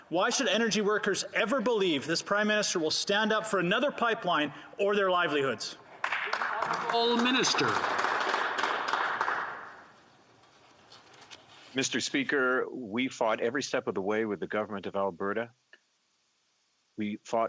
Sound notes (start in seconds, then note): 10.1 some Applause